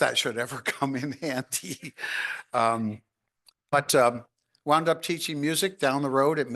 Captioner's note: chuckles